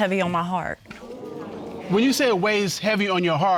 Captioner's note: audience exclaims